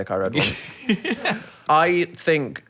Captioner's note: chuckles